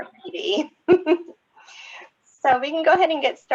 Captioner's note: laughs